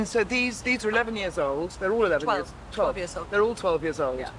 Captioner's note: none